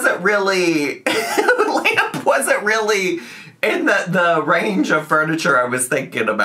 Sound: laughs

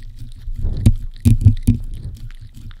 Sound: lick lick lick lick lick lick lick lick lick lick lick lick

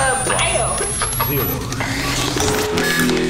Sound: laughs

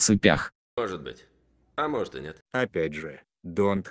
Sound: none

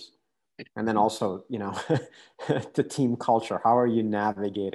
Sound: chuckles

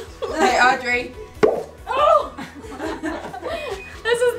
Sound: pop

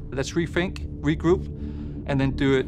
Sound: none

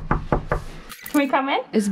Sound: nat pop of knocking on door

